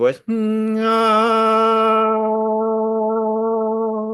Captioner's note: humming